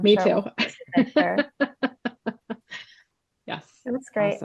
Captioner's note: laughs